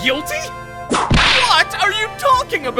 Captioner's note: whip cracks!